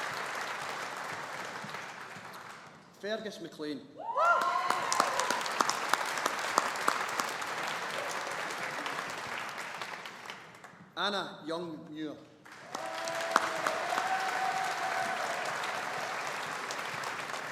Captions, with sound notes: Fergus McLean. (AUDIENCE APPLAUDING) Anna Young Muir. (AUDIENCE APPLAUDING)